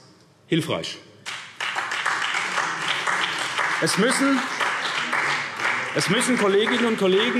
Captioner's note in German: Beifall SPD